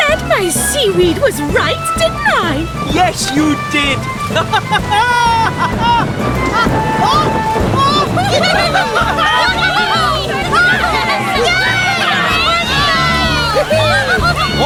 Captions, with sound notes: I SAID MY SEAWEED WAS RIGHT, DIDN'T I! [ Both Laughing ] [ Loud Thunderclap ] [ Wind Howling ] [ Both Laughing ] [ All Laughing ]